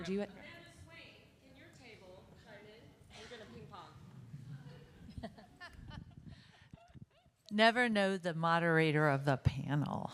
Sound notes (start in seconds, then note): 1.0 faintly speaking; 4.4 participants laughing